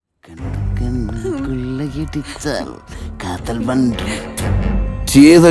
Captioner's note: humming a romantic song